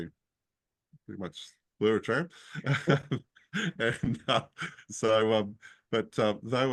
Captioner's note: laughs